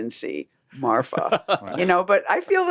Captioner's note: laughs